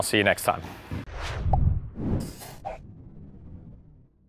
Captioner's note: swooshing